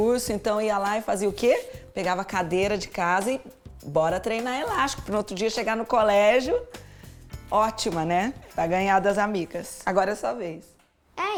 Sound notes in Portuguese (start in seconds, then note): none